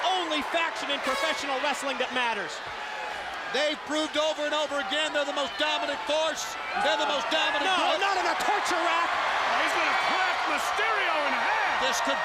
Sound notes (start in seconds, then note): 4.1 crowd chatter